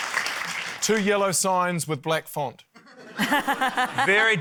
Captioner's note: laughter